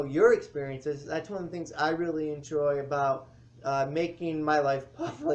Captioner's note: laughs